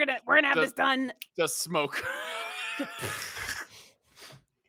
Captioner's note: laughs